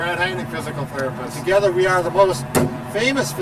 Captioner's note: hand bangs